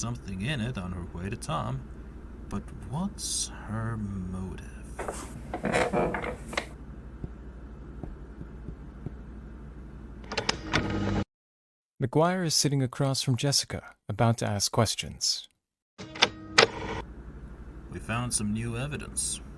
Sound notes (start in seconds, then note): 8.0 McGuire taps his finger on desk; 10.1 recording stops